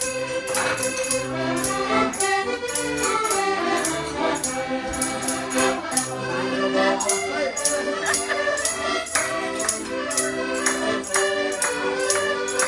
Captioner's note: people rhythmically clapping; upbeat accordion music; exciting beat music